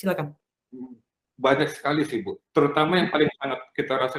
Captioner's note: non-english speech